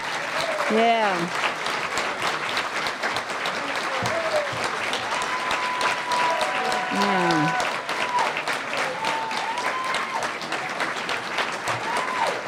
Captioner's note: applause